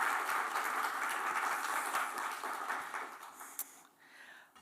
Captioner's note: applause